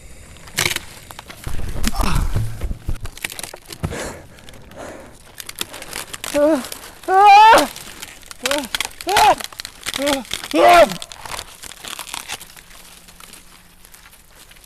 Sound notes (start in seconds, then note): 1.9 Brian grunts; 4.9 panting; 7.0 yells; 9.6 cracking; 10.4 Brian yells